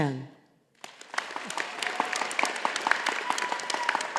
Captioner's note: audience applauding